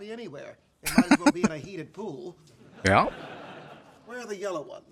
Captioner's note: chuckling